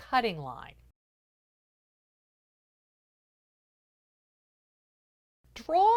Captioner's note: no Sound Present